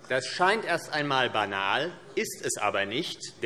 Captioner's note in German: none